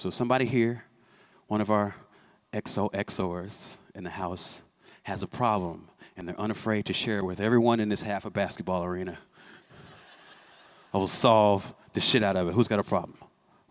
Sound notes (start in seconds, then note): 9.6 laughter